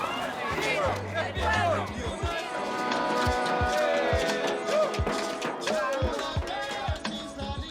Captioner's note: parade noise